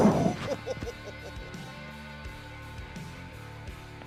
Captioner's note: laughs